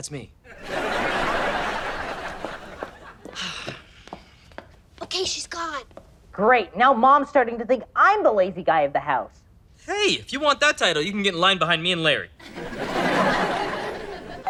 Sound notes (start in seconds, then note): 0.4 audience laughter; 6.3 voiceover; 12.4 audience laughter